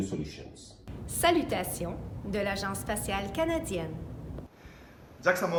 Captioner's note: speaking in foreign languages